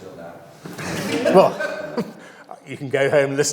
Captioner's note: audience laughs